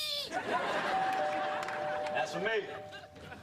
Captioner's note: doorbell rings